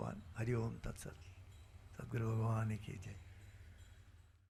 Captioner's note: speaking in Sanskrit